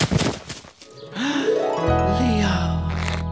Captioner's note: gasping